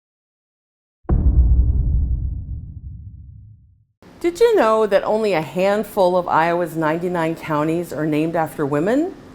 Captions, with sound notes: [boom sound effect] Did you know that only a handful of Iowa’s 99 counties are named after women?